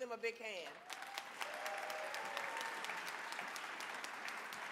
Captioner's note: audience clapping